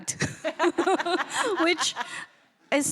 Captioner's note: laughing